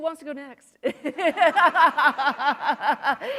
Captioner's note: laughter